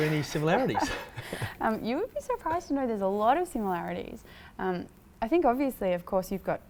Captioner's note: laughs